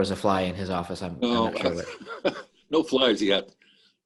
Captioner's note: laughs